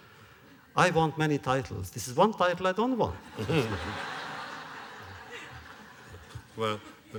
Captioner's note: laughter